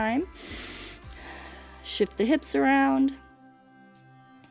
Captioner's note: inhales and exhales